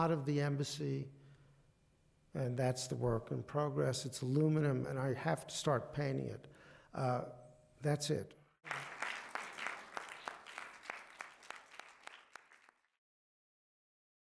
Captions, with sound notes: of the embassy. And that's the work in progress. It's aluminum, and I have to start paying it. That's it. [APPLAUSE]